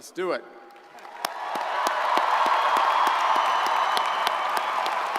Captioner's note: crowd cheering